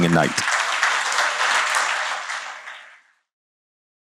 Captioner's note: cheers and applause